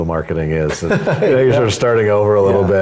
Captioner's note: laugh